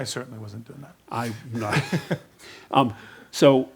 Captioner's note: Reid laughs